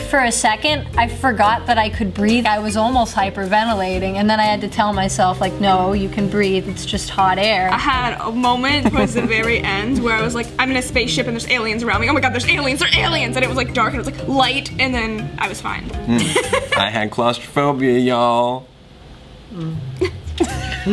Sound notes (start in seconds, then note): 14.3 makes noise of acknowledgement; 19.3 laughs